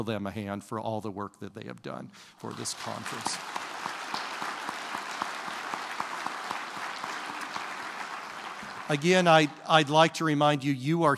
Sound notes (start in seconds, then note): 2.4 applause